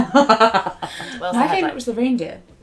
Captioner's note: laughter